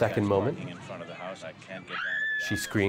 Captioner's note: woman screams on screen